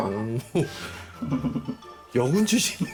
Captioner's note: laugh